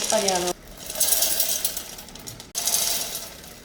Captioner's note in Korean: 별사탕 굴러가는 소리가 묘하게 좋음